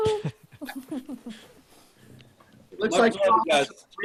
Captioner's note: laugh